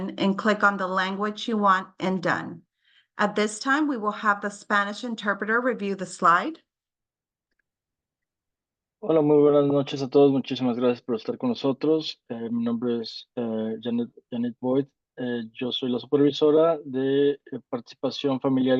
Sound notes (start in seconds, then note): 9.4 interpreter speaking in Spanish